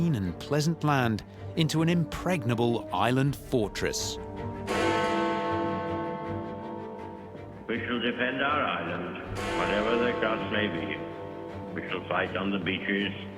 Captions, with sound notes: and pleasant land into an impregnable island fortress. (bell tolls) We shall defend our island. Whatever the cost may be. We shall fight on the beaches,